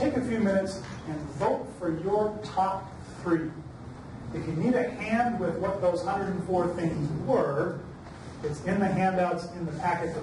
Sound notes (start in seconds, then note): none